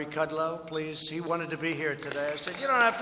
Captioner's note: applause